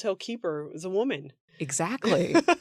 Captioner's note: laughs